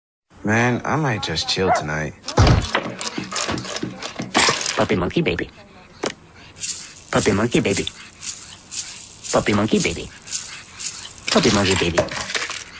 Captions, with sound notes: Man, I just might chill tonight. *dog barking* Puppy monkey baby. Puppy monkey baby. *rattle shaking* Puppy monkey baby. Puppy monkey baby.